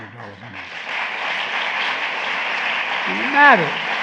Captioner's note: applause